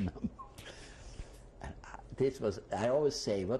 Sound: laughs

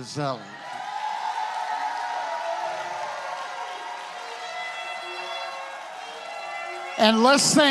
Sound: congregation cheers

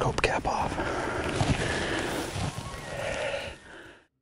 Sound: breathes heavily

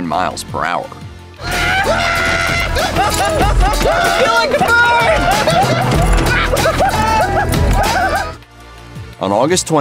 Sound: hooting and hollering

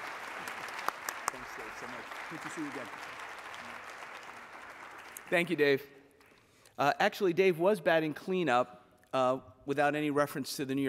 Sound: applause

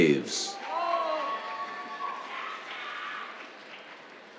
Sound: cheers, applause

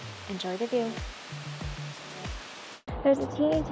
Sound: waterfall sounds

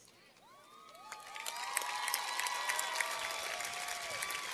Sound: cheers and applause

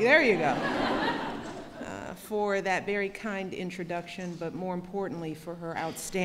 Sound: laughter

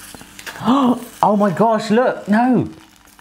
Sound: gasping

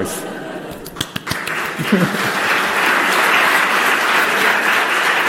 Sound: audience clapping

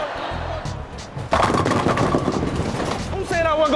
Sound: pins falling

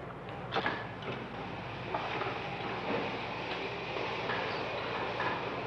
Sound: electric wheelchair motor whirring

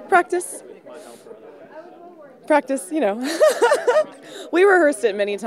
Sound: laughs

